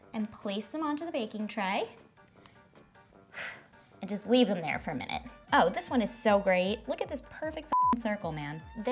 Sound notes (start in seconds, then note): 3.3 sighs; 7.7 beeps